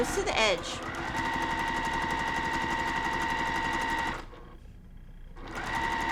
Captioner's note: sewing machine whirring